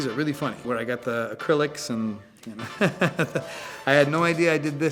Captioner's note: laughs